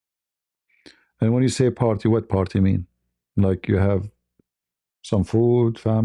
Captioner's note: none